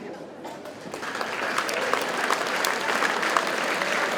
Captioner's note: audience applauds